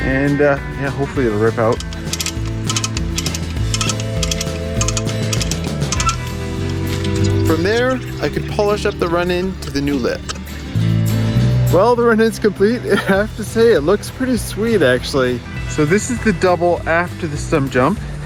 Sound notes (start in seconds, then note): 12.9 chuckles